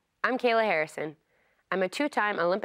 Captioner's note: none